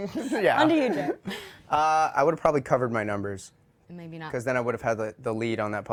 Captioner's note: laughter